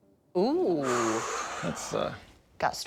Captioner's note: sighs